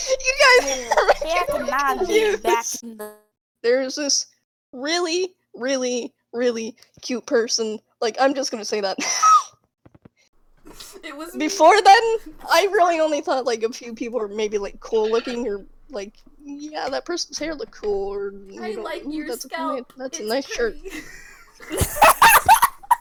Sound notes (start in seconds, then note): 8.8 wheeze